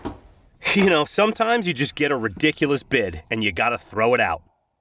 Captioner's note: snickers